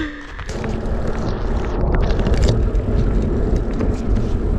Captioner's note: bicycle whirring